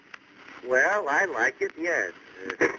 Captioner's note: on phone